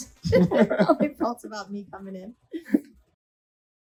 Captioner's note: laughs